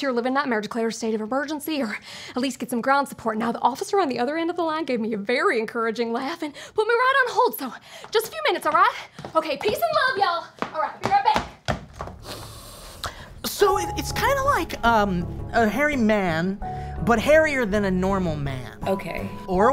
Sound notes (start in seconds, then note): 12.2 Paul inhales